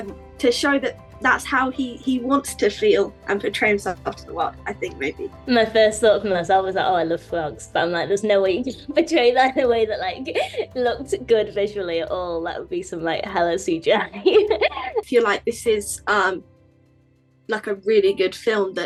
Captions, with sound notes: to show that that's how he wants to feel and portray himself out to the world, I think maybe. - My first thought from this I was like oh I love frogs but I'm like there's no way you can portray that in way that like looked good visually at all. That would be some like hella CGI. (chuckles) - I feel like this is like a really good film